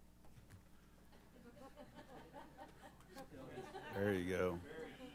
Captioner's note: laughter